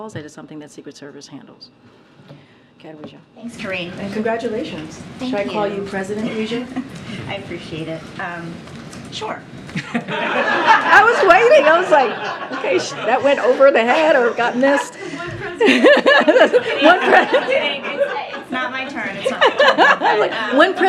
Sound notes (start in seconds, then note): 7.8 laughs; 9.7 laughter